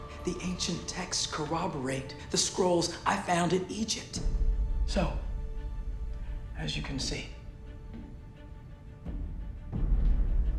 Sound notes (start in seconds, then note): none